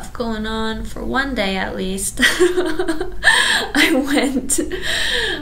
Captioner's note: laughs